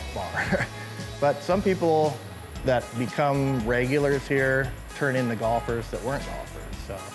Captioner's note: chuckles